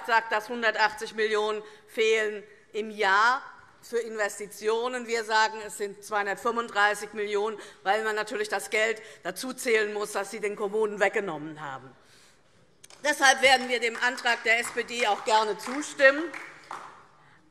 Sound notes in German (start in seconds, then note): 12.8 Beifall DIE LINKE